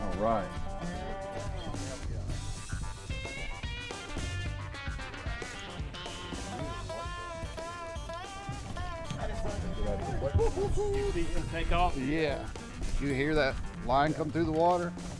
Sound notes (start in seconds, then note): 3.5 upbeat country music; 6.4 men chatting